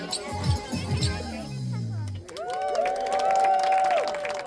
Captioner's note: applause